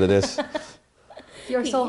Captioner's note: laughs